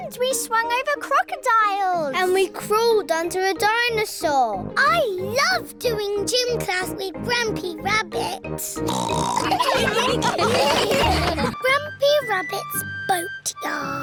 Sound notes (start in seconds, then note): 8.9 snorts; 9.4 all laughing